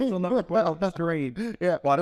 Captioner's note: laughs